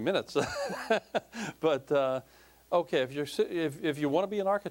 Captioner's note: laughing